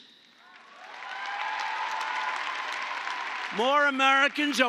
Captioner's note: applause